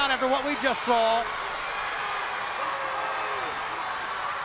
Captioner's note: crowd yelling